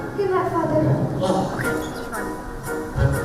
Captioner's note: grunts